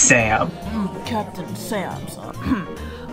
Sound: clears throat

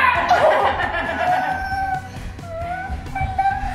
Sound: laughs

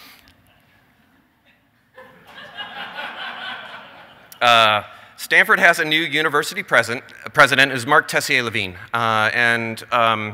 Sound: laughter

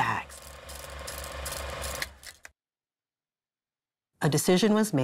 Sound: machinery whirring

